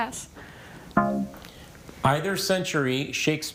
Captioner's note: tone clunks